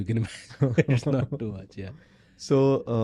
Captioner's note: laugh